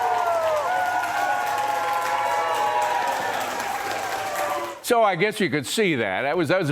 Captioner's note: cheers and applause